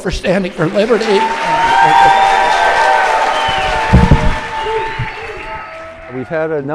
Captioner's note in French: cheering